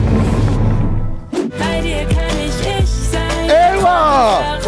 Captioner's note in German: Spannungsvolle Klänge; Freudiger Laut